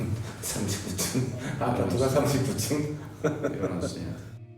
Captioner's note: speaking Korean